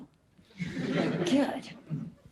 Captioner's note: audience laughs